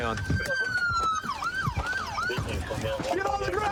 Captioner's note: sirens wailing